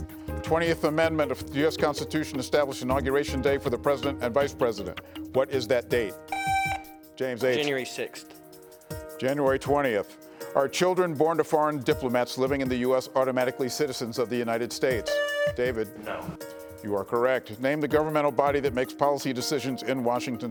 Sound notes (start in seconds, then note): 6.3 buzzer buzzing; 15.0 buzzer buzzing